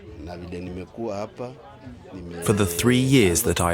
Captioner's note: speaking in non-English